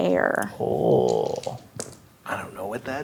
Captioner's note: dice rolling